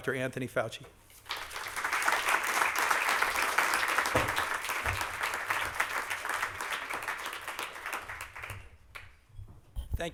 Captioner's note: applause